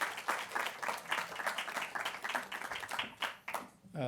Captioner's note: applause